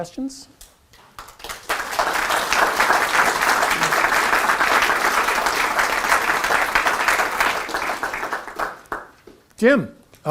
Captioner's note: applause